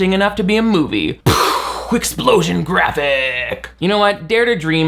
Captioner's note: explosion sound